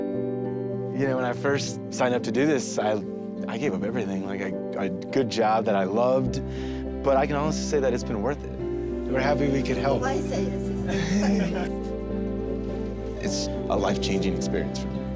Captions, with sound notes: - You know, when I first signed up to do this, I gave up everything, like, a good job that I loved. but I can also say that it's been worth it. We're happy we could help. - [speaking foreign language] [laughter] - It's a life-changing experience for me.